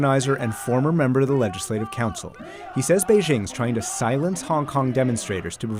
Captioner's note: protesting in chinese